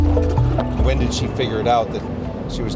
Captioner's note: curious music; engine chugging